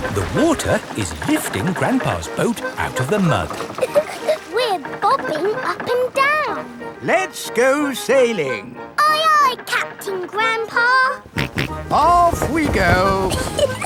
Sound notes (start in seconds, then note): 3.8 chuckles; 11.2 snorts